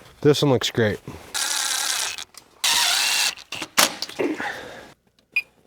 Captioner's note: machine drilling